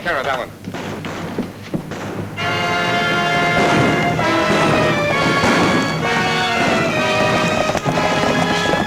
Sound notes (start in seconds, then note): 0.1 guns bang; 2.2 exciting music